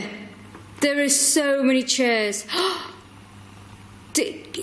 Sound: gasps

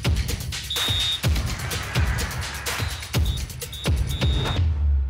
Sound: energetic percussive music; whistle blows

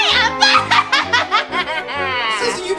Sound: laughs

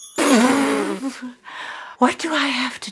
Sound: spits

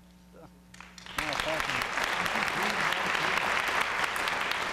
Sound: applause

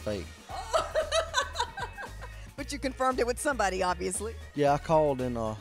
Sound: laughter

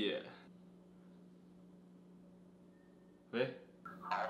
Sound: dad: silence

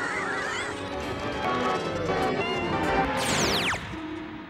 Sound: thrumming

